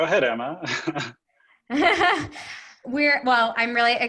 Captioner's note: laughing